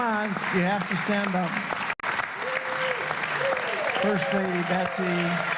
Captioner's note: applause